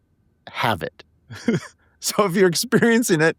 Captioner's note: laughing